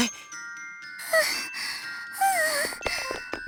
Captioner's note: wheeze; huff